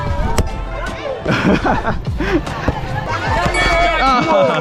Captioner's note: laughs